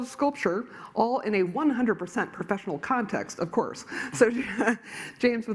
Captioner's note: laughs